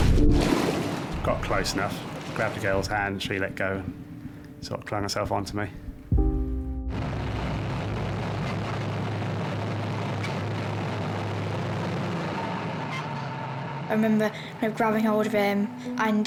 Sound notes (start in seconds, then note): 6.4 soft music; 6.9 motor roars